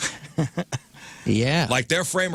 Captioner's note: laughing